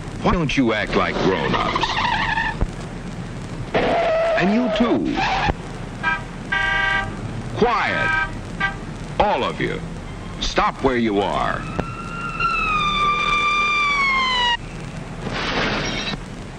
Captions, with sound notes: Why don't you act like grown-ups? *car brakes screeching* And you too! *honking* Quiet! All of you. Stop where you are! *police siren wailing* *clattering*